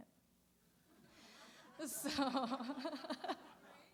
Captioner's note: laughter